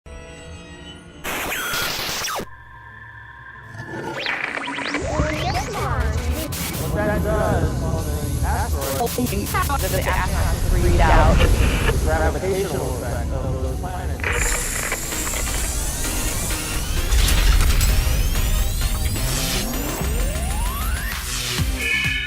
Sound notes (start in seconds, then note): 0.5 sound Effects